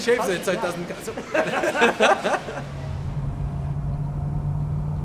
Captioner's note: laughing